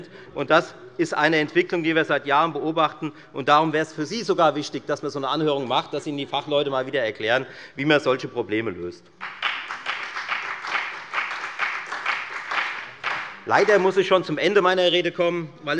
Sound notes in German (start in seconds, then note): 9.2 Beifall bei der FDP und bei Abgeordneten der SPD